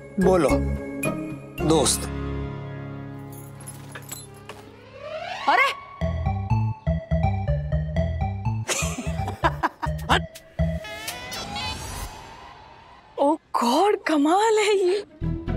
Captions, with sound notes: She is calling them... ...as a friend? [bangles clinking] Hey! [laughs] Get lost! Oh God, this is surprising.